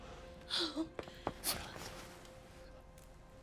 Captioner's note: gasps